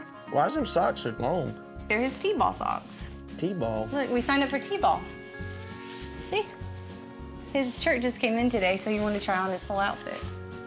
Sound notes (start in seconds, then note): none